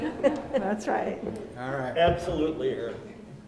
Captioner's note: laughs